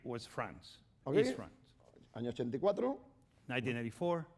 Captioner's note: speaking spanish